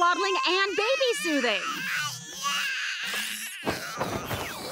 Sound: crying

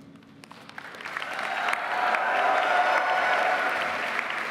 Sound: audience applauding

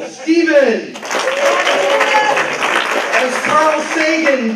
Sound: applause

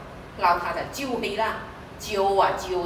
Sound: Cantonese

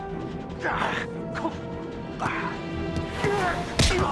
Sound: grunting

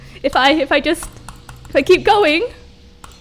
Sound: aggressive mouse clicking

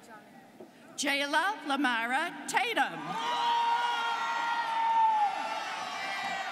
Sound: students cheering

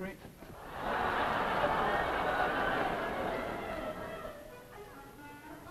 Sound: audience laughs

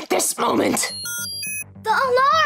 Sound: beeping

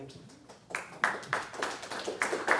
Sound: applause

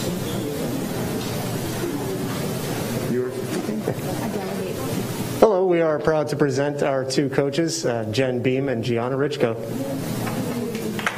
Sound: applause

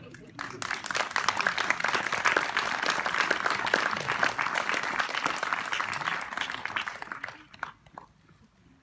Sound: applause

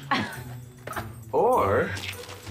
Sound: Alison laughs

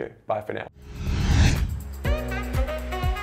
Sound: air whooshing; upbeat music

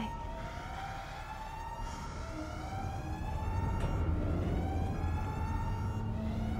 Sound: siren blaring

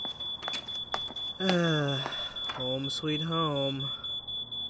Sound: sighs

